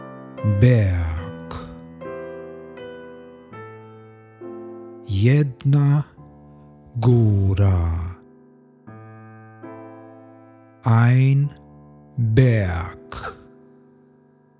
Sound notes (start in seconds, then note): 1.6 german; 12.6 german